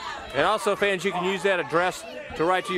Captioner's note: crowd chatter